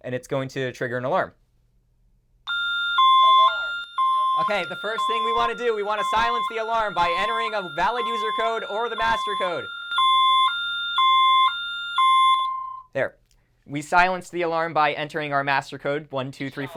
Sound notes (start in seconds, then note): 2.7 alarm blaring; 9.8 alarm blaring